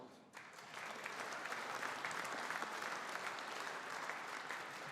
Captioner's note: audience applauding